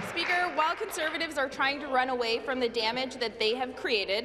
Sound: applause

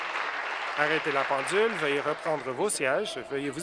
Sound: applause

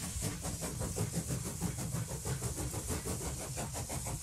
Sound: chuffing

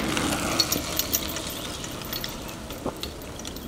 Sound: sound of bike passing

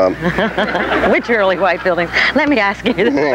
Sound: audience laughs

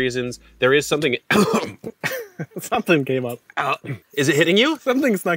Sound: coughs

